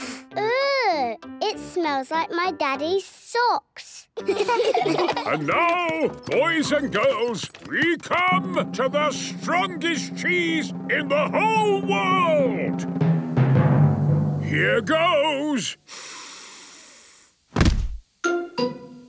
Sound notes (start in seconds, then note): 13.2 dramatic drumming music; 16.6 sniffs